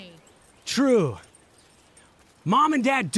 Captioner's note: dog tags jingling